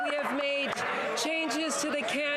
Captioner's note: applause